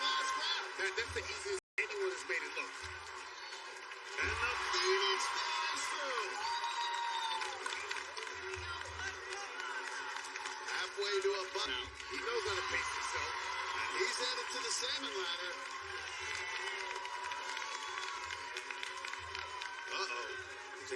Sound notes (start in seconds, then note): 16.0 cheers and applause